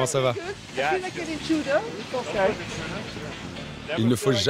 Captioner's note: in English